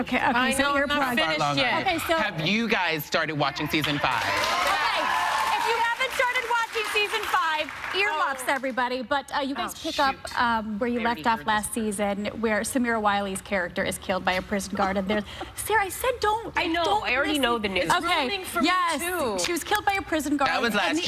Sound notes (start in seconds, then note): 5.4 applause